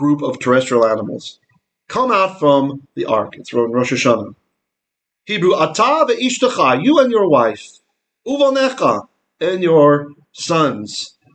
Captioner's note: Hebrew